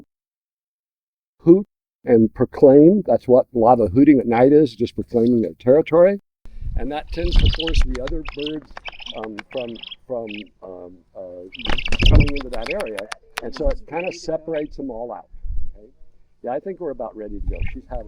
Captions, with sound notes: hoot, and proclaim that's what a lot of hooting at night is just proclaiming their territory. And that tends to force the other birds [Owlet cries and bill-clacks] from coming in with that area and so it kind of separates them all out. Yeah, I think we're about ready to go.